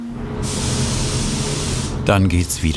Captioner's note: hissing